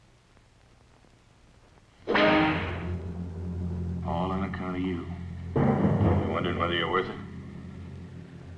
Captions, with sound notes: (whip cracks) (tense orchestral music) - All on account of you. You wonderin' whether you're worth it?